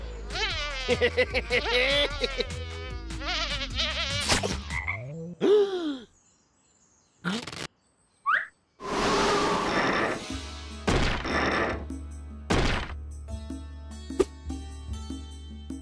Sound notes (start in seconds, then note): 0.8 laughs; 4.9 frog ribbits; 5.4 gasps